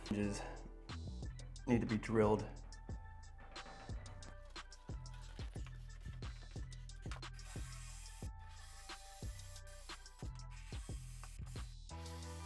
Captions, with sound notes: Hinges need to be drilled. (calm music) (light drilling noise)